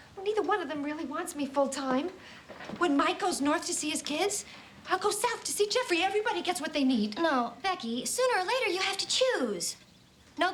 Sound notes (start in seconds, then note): none